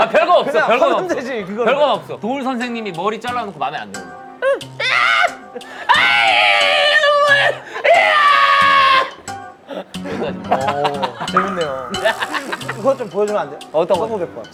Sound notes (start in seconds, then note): 5.7 screaming; 11.9 laughing